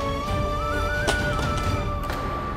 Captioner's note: thud on the ground